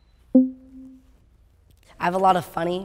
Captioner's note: beep sound